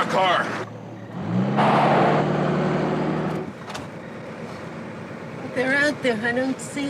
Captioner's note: car engine roaring; tires screeching